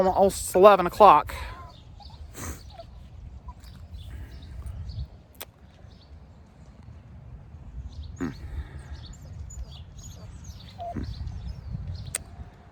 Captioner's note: Ella continues whimpering